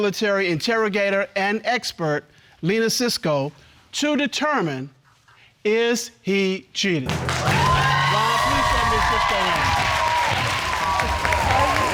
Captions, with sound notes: former military interrogator and expert, Lena Sisco, to determine, is he cheating? (AUDIENCE CHEERS) Ron, please send Miss Sisco in.